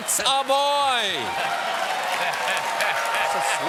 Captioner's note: cheers and applause